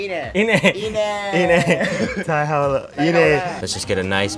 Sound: speaking in Japanese

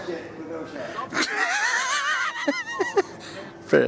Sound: laughter

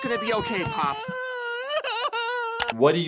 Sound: Pops sobs

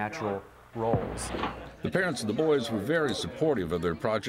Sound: voiceover

